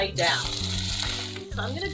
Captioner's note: oil sizzling